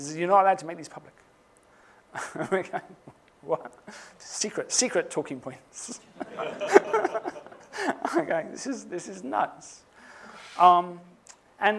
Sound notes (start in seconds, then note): 2.4 laughs; 6.0 laughter